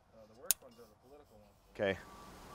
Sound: distributor clicks

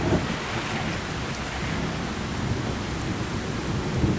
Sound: tires splash

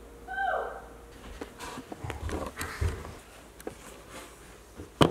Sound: rustling

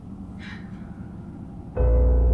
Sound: exhales; piano music

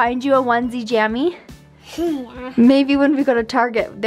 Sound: chuckling

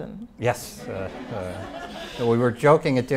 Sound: audience laughing

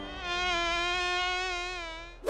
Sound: fly buzzes

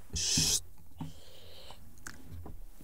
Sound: shhhh

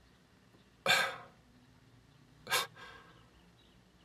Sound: exhaling

